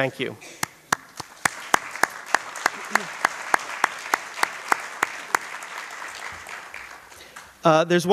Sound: applause

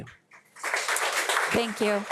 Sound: audience applauding

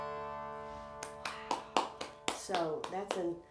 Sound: claps

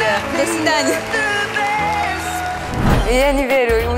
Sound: cheering

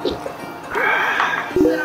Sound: laughing

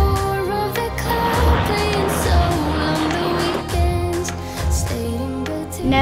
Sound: helicopter blades chopping

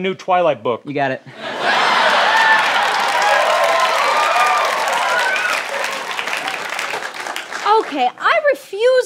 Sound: laughter

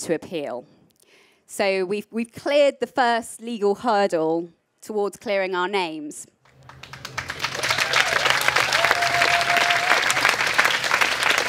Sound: applause

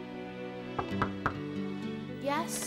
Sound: pensive music; knocking on door

